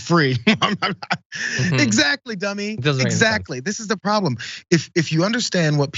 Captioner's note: laugh